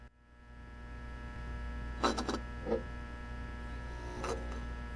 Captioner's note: electricity buzzes